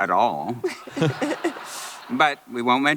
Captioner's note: laughter